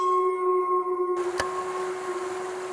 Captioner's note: water rushing; light switch flicks